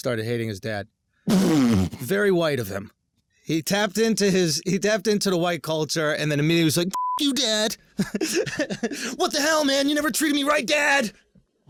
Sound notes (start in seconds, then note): 1.4 laughs; 6.8 beep; 7.9 laughs